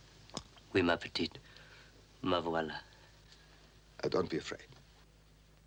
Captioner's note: speaking in foreign language